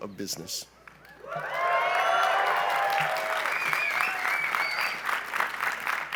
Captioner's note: cheering and applause